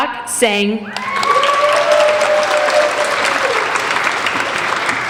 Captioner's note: applauding